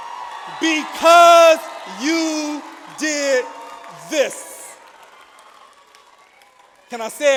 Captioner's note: audience applauds